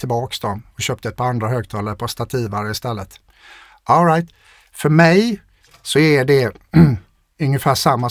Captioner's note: clears throat